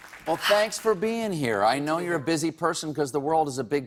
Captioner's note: applause